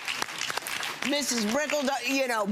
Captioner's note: audience applauds